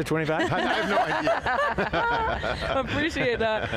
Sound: panelists laughing

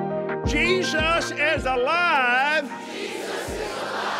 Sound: audience repeats

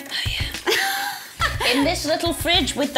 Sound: laughs

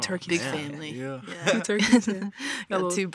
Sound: chuckles

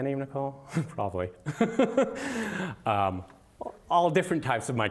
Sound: laughter

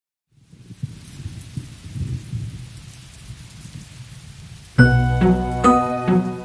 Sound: pattering of rain; rumbling of thunder

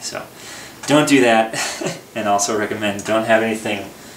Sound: laughter

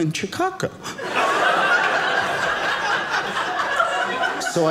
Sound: audience laughing

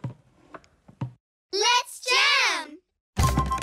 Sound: kids call out

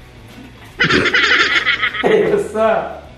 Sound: manic laughing

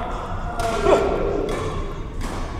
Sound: grunts

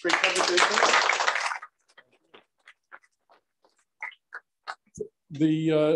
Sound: applause

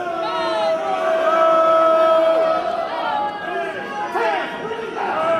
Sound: crowd screaming

